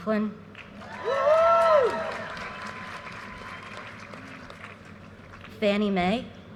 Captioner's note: audience cheers and applause